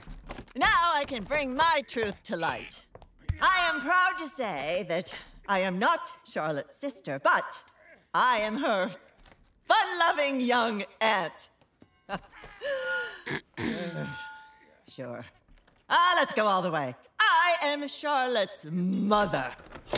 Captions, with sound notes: Now I can bring my truth to light. I am proud to say that I am not Charlotte's sister, but I am her fun loving young aunt. [lightly chuckles] [clearing throat] Sure. Ah, let's go all the way. I am Charlotte's mother.